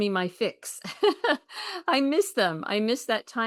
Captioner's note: chuckles